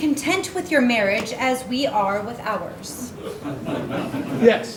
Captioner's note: audience laughing